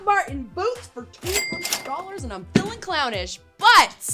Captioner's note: cash register chiming